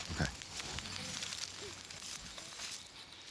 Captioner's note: speaking Native language; birds chirping